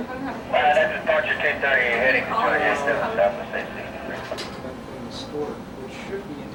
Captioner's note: man through Radio